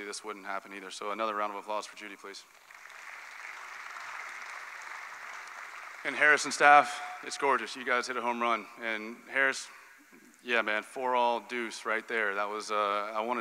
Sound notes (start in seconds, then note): 2.5 applause